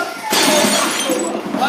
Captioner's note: loud glass breaking